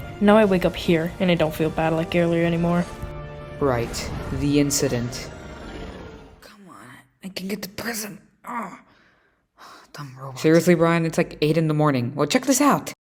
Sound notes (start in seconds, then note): 6.0 Brian over speaker on his robot